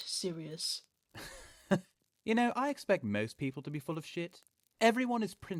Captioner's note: Sirius laughs coldly